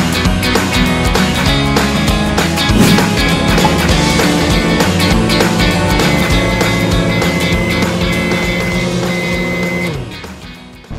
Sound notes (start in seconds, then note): 6.8 microwave working sound